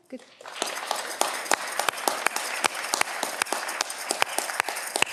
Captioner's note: audience cheering